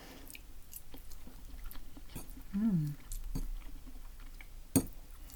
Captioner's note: nomnom